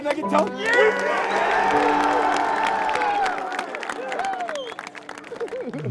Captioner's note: all clapping and cheering